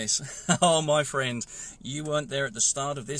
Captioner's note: laughs